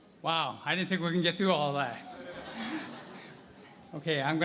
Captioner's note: laughter